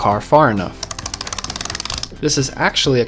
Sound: spring clicking

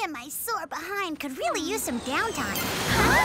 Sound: all scream

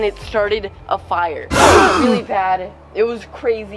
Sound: dramatic sound effect

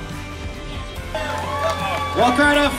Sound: crowd cheering

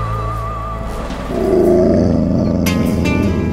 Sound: wolf growling

